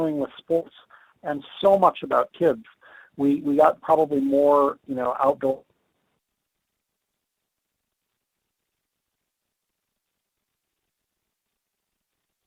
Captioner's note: audio cuts off